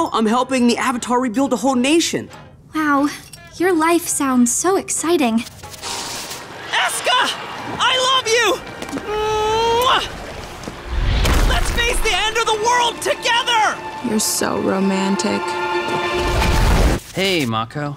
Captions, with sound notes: the Avatar rebuild a whole nation. Wow, your life sounds so exciting. Eska! I love you! [kissing] Let's face the end of the world together! You're so romantic. Hey, Mako.